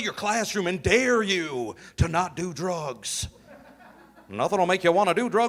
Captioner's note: audience laughing